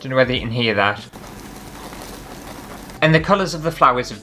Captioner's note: crunchy Sounds